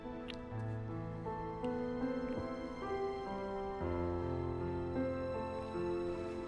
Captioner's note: romantic music; lips smacking